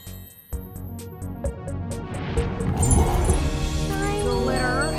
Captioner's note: rumbling